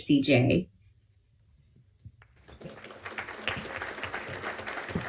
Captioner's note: applause